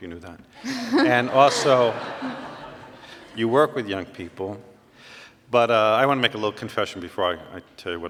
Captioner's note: laughter